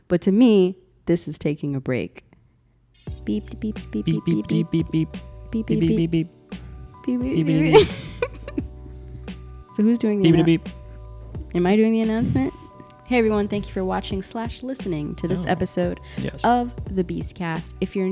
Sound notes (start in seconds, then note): 3.9 both making beeping sounds; 7.3 laughing